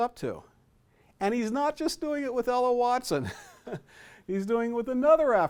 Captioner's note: chuckles